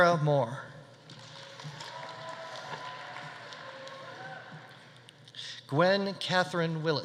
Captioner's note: audience applauding; audience cheering